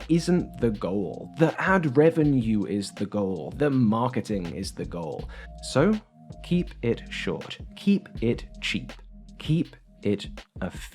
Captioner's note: snip